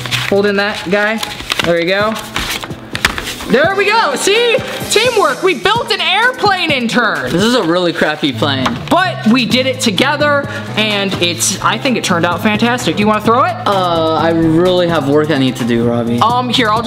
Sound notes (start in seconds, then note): 4.6 victory horn